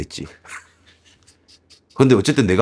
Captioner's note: ridiculous laughter